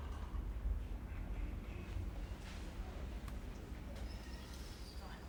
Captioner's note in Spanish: estruendo del hospital